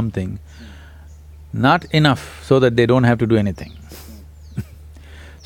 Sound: laughs

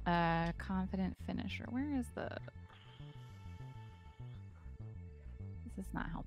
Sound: none

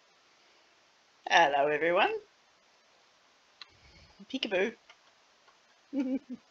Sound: giggles

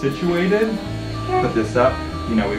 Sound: chair whirs

